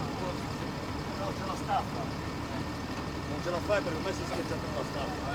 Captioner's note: conversations in Italian